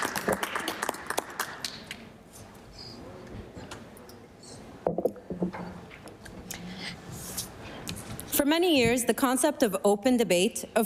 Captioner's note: applause